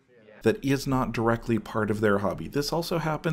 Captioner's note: voiceover